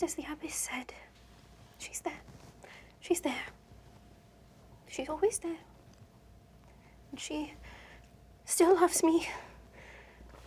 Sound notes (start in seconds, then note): none